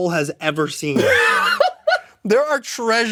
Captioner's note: MatPat laughs